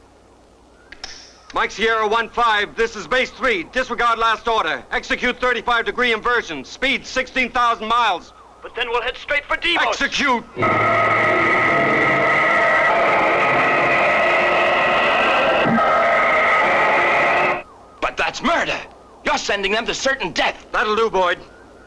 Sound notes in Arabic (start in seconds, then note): 10.5 موسيقى غريبة; 10.5 هدير محرك الصاروخ